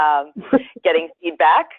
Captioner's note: laughs